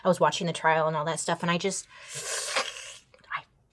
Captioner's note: slurps